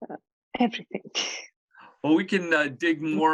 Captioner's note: chuckles